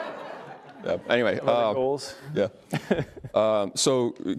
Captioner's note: laughs